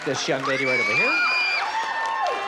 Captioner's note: excited shouts